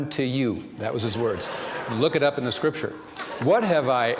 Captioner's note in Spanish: risas